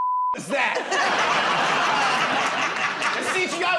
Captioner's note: laughter